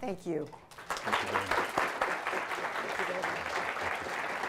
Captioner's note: applause